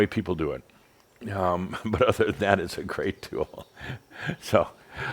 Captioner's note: Adamus chuckles